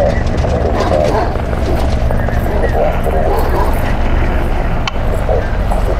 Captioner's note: helicopter blades continue; barking continues